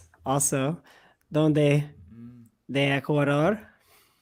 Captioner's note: speaking spanish